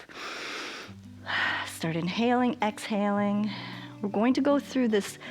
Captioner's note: inhales and exhales